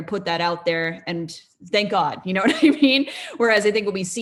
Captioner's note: laughs